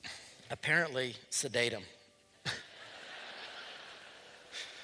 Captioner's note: laughter